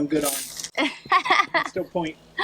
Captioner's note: laughs